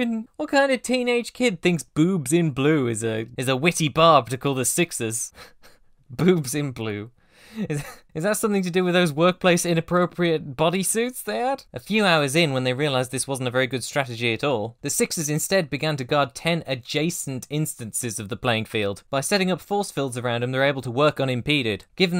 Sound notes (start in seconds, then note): 7.5 breathy laugh; 7.6 laughs